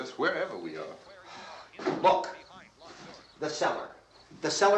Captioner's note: sighs